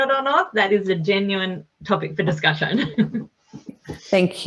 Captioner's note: chuckles